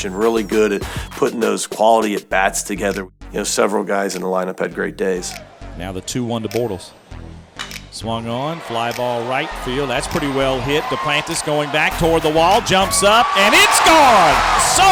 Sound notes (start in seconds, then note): 6.1 voiceover